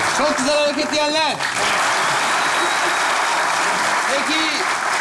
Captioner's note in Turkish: Alkış ve ıslık sesleri